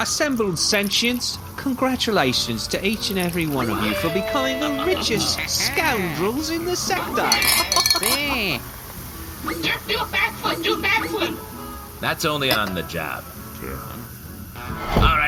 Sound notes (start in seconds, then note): 7.8 Bobby cheers, Derf and Snaps laugh; 12.4 clinking as the gang toasts